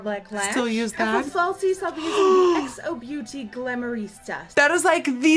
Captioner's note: Present day Nikkie gasps